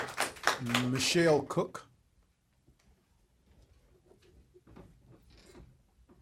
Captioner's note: applause